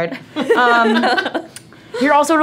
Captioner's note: laughter